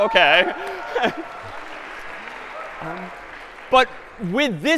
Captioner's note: cheering and applause